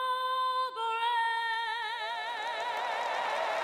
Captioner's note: cheering; applause